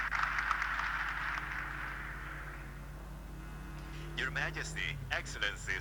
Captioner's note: applause